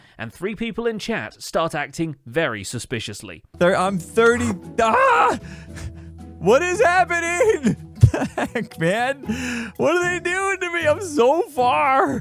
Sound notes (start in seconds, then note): 4.8 alarmed shout; 6.4 confused laugh